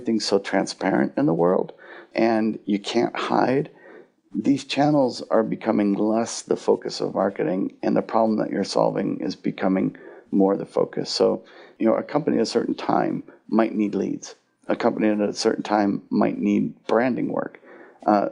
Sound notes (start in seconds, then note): none